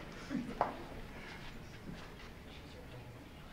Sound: laughs

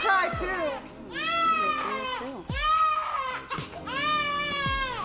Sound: baby crying intensely

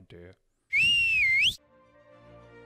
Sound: whistles

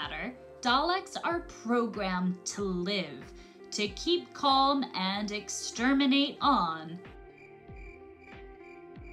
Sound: crickets

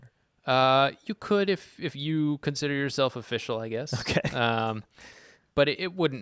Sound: laughs

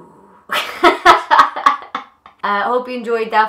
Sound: laughs

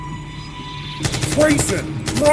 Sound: AK-47 fires

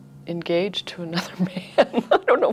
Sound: laughs

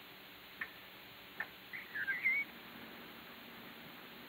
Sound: birds chirping

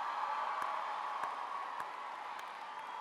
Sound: applause; cheering

